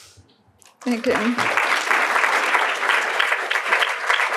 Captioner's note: applause